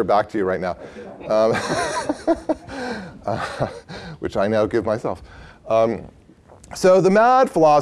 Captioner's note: laughter